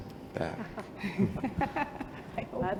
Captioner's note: chuckling